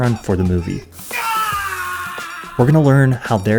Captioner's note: screams